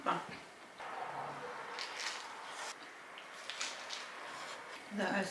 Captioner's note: hurriedly eating a burger